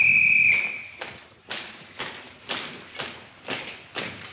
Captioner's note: officer whistling; footsteps tapping